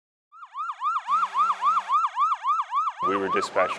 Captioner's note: siren wailing